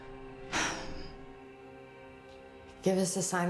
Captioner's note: Rachel sighs